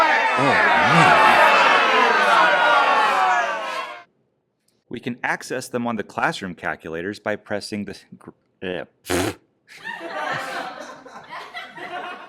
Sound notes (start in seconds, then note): 0.0 booing continues; 8.4 awkward noises; 9.7 free iMovie sitcom laugh track